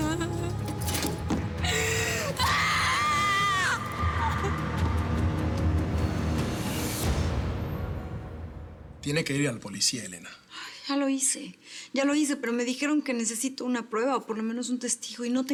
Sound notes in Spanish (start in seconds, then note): 4.6 Gritos